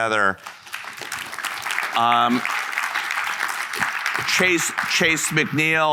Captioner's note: audience applauding